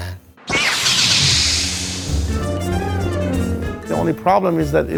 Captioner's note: lightsabers swoosh